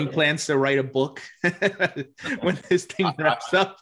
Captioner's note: laughs softly